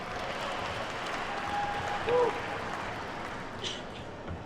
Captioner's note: attendees clapping